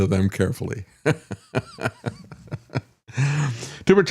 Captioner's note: laughs